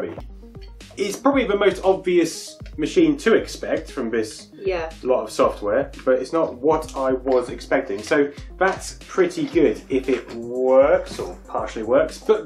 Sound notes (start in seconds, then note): none